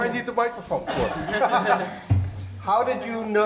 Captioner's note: laughing